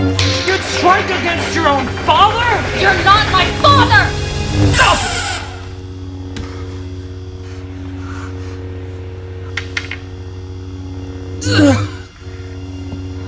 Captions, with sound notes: You'd strike against your own father!? - You're not my father! [Grunts]